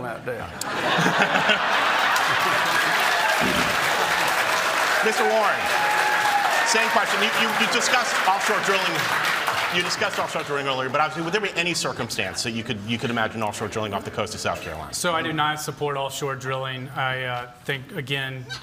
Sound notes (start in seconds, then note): 1.5 cheering